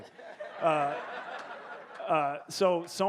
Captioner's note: audience laughing